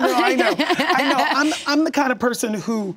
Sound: laughs

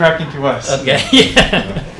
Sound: patient laughing

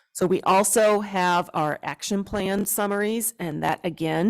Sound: none

